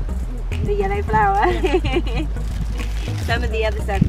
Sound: laughs

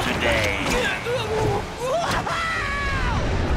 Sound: screaming

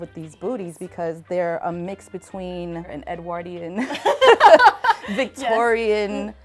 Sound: all laugh

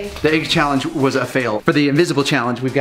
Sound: none

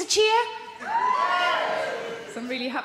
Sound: audience cheering

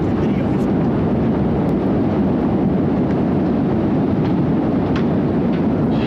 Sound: rushing wind noise continues

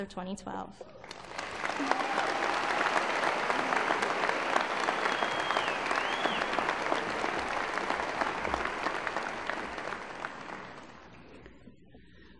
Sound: applause

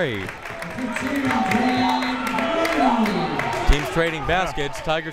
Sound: muffled speaking over speaker system

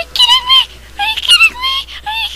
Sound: squealing

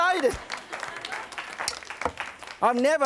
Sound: audience applause

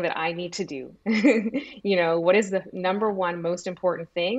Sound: laughs

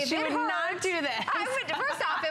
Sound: laughter

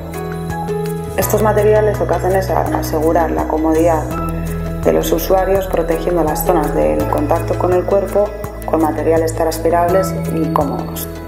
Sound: air flow

